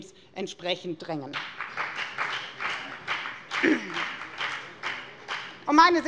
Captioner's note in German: Beifall bei der FDP